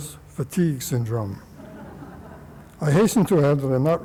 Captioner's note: laughter